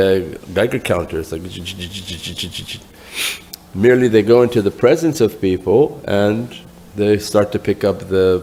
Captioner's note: buzzing